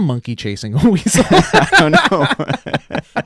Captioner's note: laughing